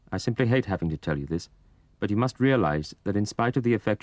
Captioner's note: voiceover